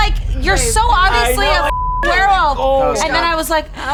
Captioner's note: beep